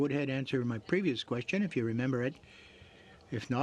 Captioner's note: speaking French